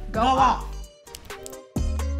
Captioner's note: snap snap